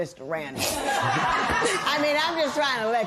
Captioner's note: laughter